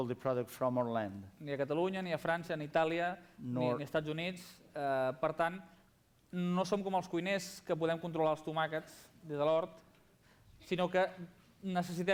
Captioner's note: non-english speech